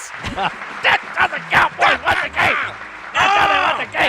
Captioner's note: yells